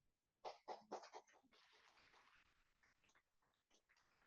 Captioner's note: applause